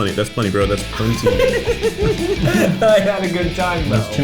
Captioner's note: laughing